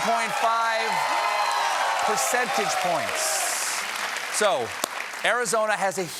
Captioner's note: cheers and applause